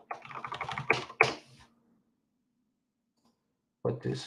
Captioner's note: keyboard clicks